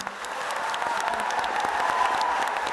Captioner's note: audience applauding